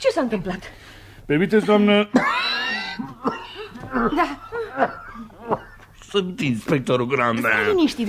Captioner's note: clears throat